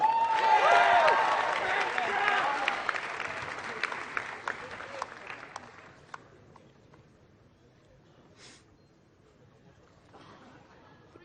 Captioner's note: applause